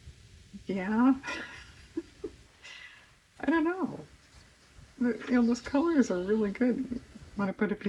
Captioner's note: laughs